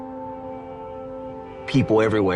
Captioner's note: cars honking in background